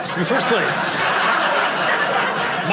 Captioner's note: audience laughing